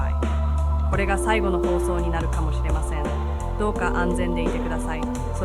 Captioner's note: speaking japanese